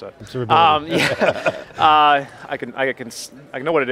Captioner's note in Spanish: Todos riendo